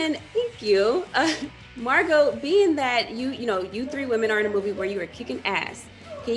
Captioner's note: laugh